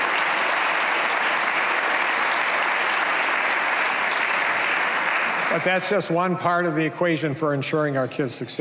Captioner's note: applause